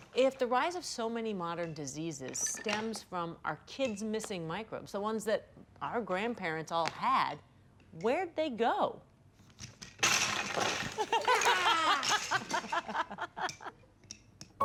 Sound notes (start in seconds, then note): 9.9 blocks crashing; 11.1 all laughing